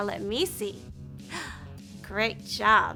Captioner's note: gasping